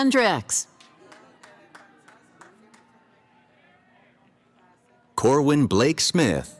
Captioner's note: cheering